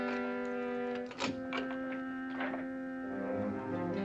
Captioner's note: door unlocking & opening